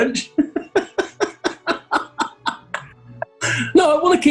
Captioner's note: chuckling